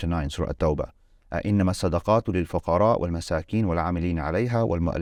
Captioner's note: speaking Arabic